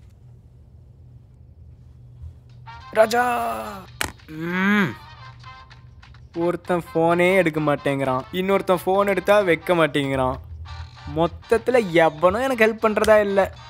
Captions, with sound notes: *phone rings* Rajaaa One isn't picking the call The other one won't finish the call. So in total, no one is willing to help me.